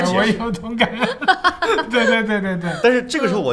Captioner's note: laughter